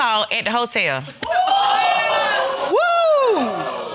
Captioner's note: audience exclaims